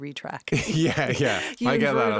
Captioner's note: laughing